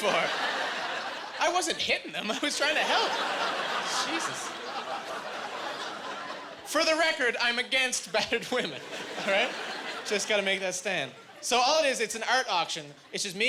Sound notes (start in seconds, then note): 2.4 laughing